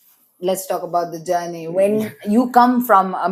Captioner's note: laughs